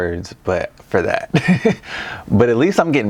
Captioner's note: chuckles